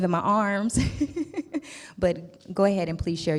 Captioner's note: laughs